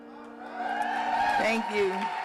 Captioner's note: audience applauds